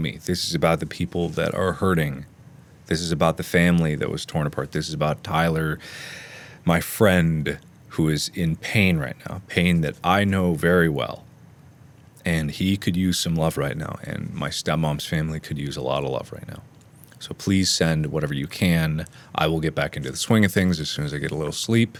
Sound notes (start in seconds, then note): 5.8 inhale